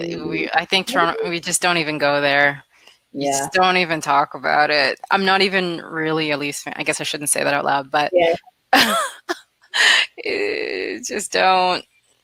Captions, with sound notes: - I think Toronto, we just don't even go there. Just don't even talk about it. I'm not even really, at least, I guess I shouldn't say that out loud but, (laughs) just don't!